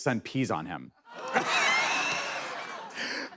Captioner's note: laughter